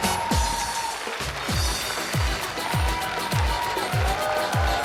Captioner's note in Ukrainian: оплески